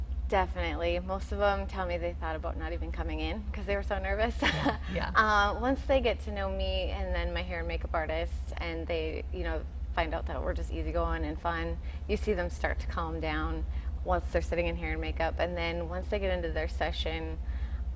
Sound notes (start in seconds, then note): 4.4 laughing